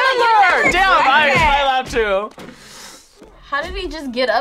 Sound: buzzer

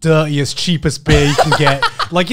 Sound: laughing

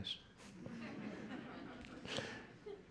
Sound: laughter

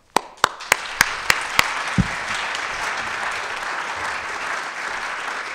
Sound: audience applauding

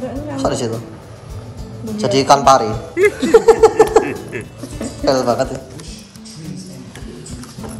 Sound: chuckles

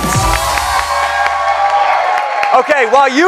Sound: cheers and applause

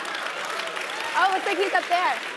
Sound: laugh

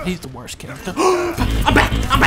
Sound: gasps

